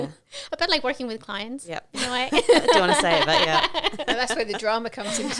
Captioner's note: laughing